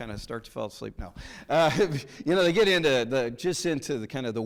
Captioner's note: chuckles